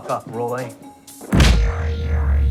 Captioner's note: thud